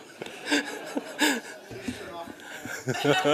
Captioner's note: laughter